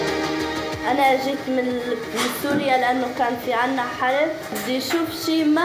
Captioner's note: speaking foreign language